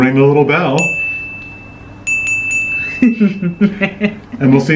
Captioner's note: dinging; laughing